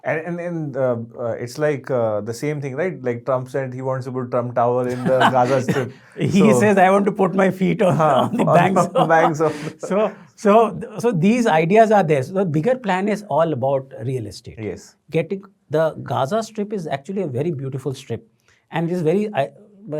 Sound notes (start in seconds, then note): 4.8 chuckles; 4.8 laughs; 7.8 chuckles